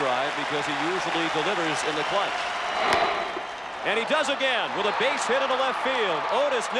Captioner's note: applause